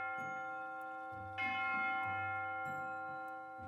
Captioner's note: bell chime